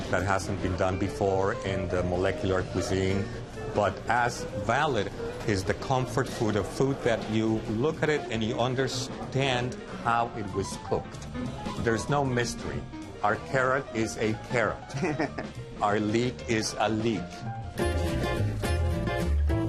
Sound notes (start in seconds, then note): 14.9 laughs